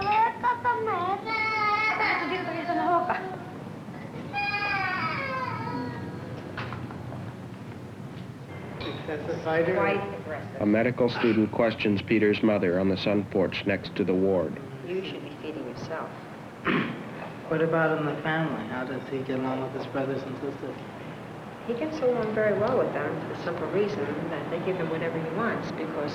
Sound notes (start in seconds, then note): 0.1 Spanish speaking; 4.2 child screaming